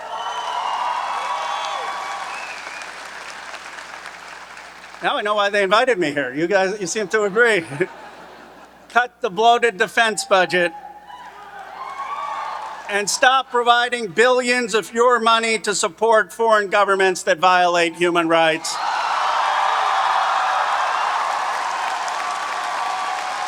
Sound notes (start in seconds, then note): 0.0 audience cheering and applauding; 6.9 chuckles; 8.1 audience laughing; 11.8 audience cheering; 18.5 audience cheering and applauding